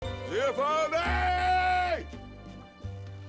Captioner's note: bellows